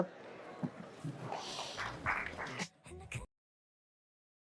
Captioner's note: audience claps